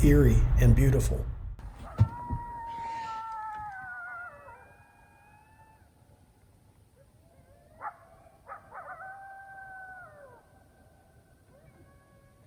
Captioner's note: howling sound